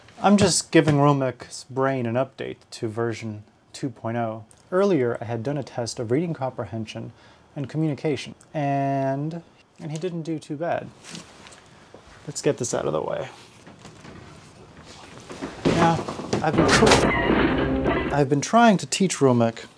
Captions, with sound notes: I'm just giving romek's brain an update to version 2.0 Earlier, I had done a test of reading comprehension and communication and And he didn't do too bad Let's get this out of the way Now, I've been (crash) I've been trying to teach Romek